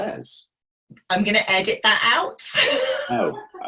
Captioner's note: laughing